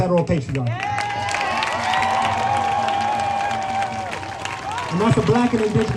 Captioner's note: applause